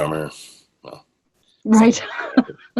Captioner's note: laughs